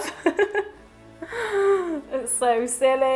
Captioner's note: laughing